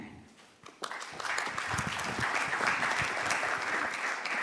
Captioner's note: applause